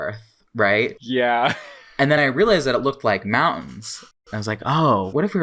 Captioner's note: laughs